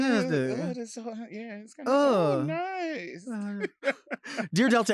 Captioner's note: laughing